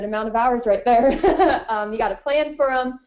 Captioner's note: laughing